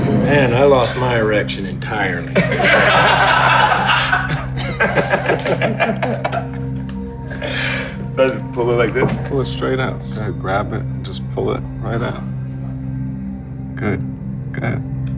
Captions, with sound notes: Man, I lost my erection entirely. (Laughing) (Laughing) Pull it like this. Pull it straight out, grab it, just pull it right out. Good, go ahead.